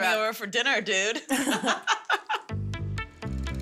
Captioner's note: laughs